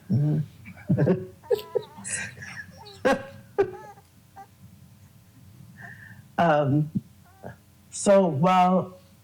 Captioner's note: laughs